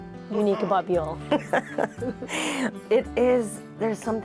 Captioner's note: laughs